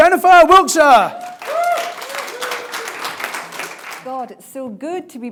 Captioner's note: audience applauding